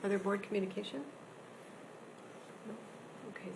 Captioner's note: none